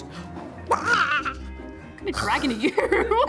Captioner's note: dragon noises